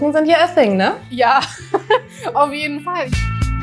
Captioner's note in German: lacht; Entspannte Musik